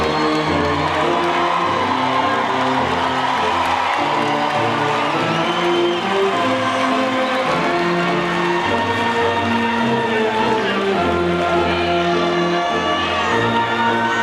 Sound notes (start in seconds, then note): 0.1 audience cheering and applauding; 5.3 attendee faintly shouting; 5.3 audience whistles